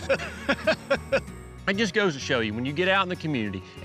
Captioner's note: laughter